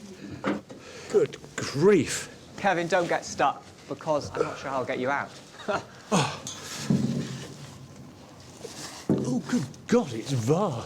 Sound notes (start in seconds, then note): 5.5 chuckles; 6.1 groans